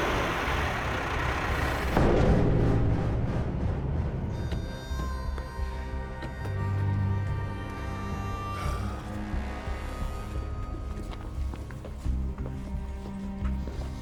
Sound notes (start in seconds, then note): 1.5 thud